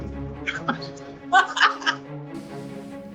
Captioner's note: nervous maniacal laugh